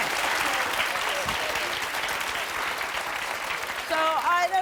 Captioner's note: audience applauding